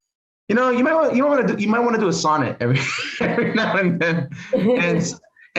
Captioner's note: chuckle